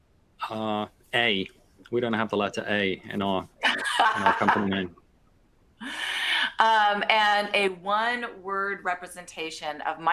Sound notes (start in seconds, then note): 5.2 laughter